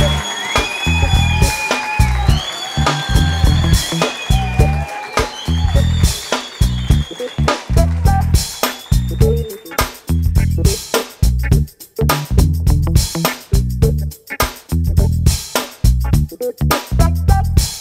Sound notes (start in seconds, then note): 2.2 applause